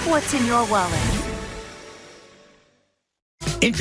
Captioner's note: fades to silence